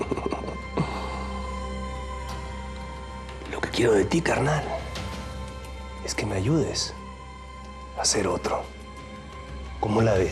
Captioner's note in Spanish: risas